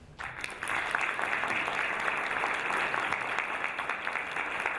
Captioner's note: audience applauding